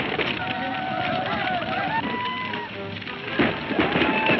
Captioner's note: men shouting